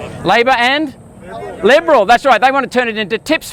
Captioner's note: crowd